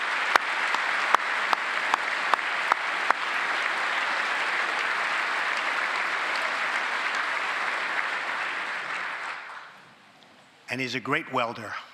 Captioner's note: applause